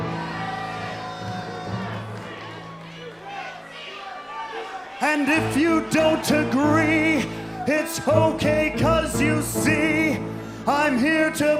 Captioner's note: crowd chatter